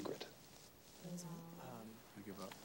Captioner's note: students murmur